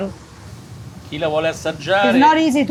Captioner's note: speaking in foreign language